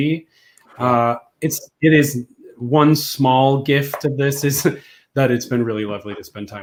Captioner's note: laughs